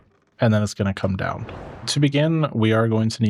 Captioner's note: whooshing